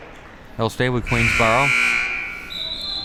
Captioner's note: buzzer rings